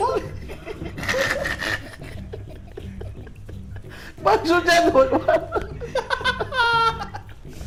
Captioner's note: chuckling